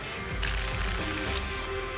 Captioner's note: tickets shuffling